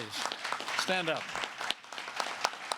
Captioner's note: applause